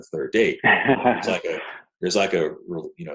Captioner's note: laughing